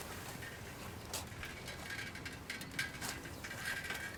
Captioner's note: bike rattling